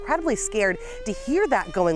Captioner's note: siren blaring